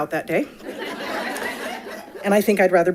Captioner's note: audience laughing